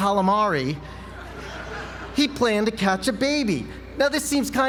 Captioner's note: laugh